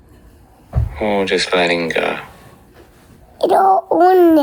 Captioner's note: head Space Voice